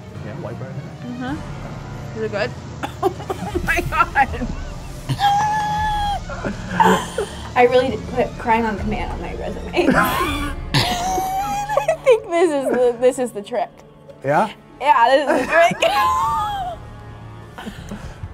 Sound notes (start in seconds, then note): 2.8 coughs; 5.2 screams; 9.8 laughs; 15.2 laughs